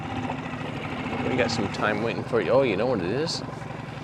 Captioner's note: engine revs